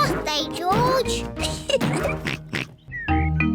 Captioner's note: oinks; laughs